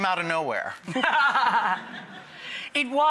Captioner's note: laughter